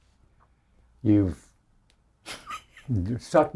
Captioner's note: chuckles